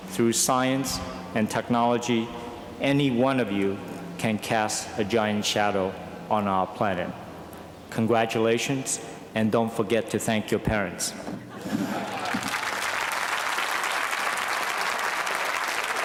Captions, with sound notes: Through science and technology, any one of you can cast a giant shadow on our planet. Congratulations, and don't forget to thank your parents. [LAUGHTER] [APPLAUSE]